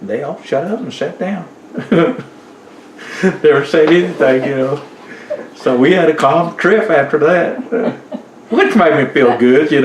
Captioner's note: laughs